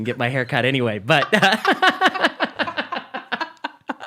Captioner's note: laughing